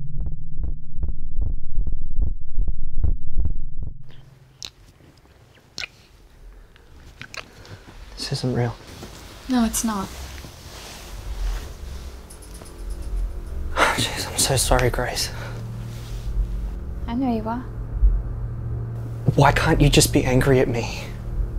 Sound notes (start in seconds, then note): 0.1 heart beats; 5.2 kissing